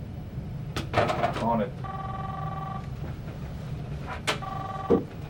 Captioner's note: phone ringing